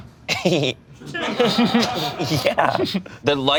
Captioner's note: crew laughs